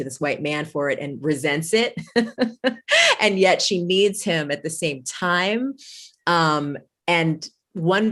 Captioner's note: laughs